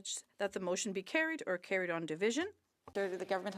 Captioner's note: speaking French